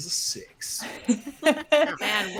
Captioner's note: all chuckle